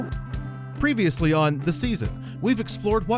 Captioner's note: voiceover